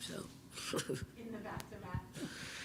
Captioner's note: Coach chuckles